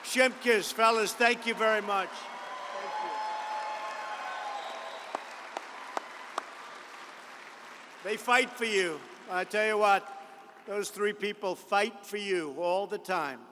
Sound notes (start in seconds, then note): 3.6 applause